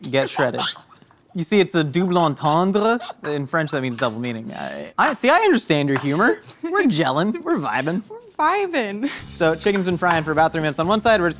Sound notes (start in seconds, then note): 0.1 laughs